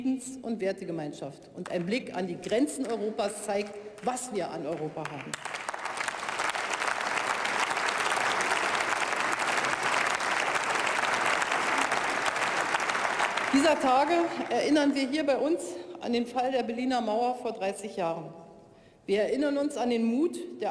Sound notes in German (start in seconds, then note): 11.3 Beifall bei der CDU/CSU, der SPD, der FDP und dem BÜNDNIS 90/DIE GRÜNEN